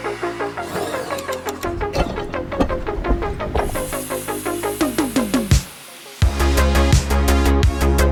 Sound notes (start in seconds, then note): 0.0 drill whirring; 1.6 molds banging; 4.0 metal brush screeching